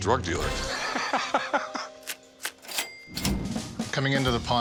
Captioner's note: laughs